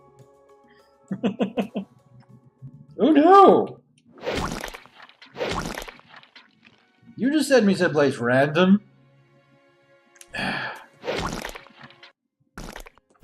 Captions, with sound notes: [laughs] Oh no! You just sent me someplace random? [sighs]